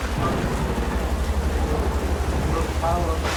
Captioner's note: thunder and rain